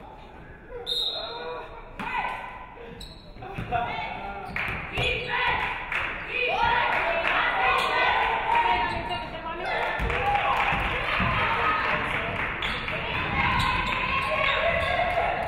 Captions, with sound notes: (referee whistles) Defense, defense, defense! (audience clapping)